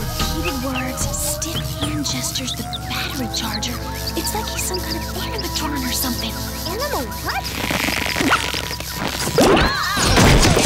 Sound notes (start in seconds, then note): 7.7 unsticking sounds